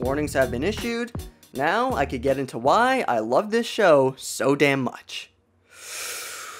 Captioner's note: deep Breath